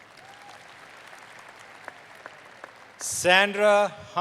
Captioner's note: applause